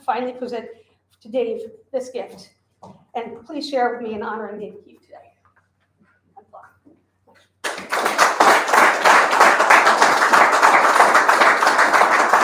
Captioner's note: audience applause